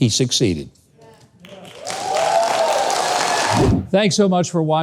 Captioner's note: clapping and cheering